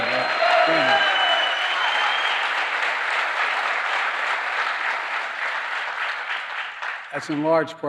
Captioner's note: applause